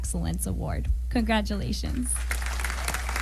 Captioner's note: applause